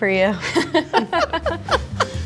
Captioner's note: everyone laughing; upbeat music